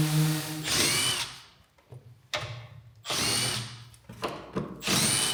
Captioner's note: electric screwdriver whirs